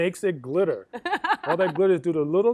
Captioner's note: laughs